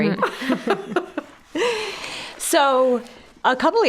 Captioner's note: all chuckling